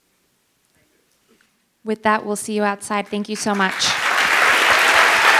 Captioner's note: cheers and applause